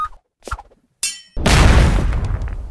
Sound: ding; very loud explosion

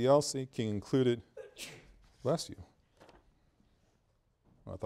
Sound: student sneezes

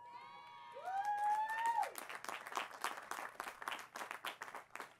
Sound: cheering and applause

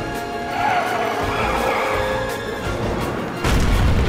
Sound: tires screeching

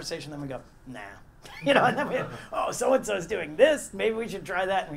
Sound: laugh

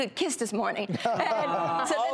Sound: laughs

